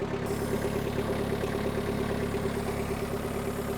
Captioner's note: machine hissing